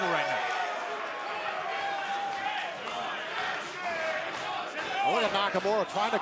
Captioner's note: crowd cheering